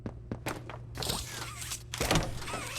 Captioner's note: footsteps